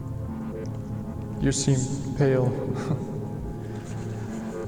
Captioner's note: chuckles